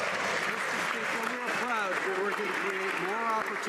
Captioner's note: some Applause